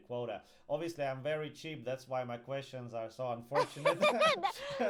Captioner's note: laughs